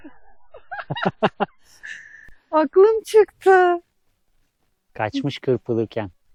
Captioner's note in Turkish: kahkaha